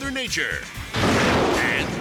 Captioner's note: thunder crashes